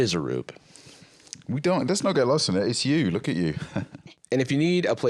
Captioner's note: chuckles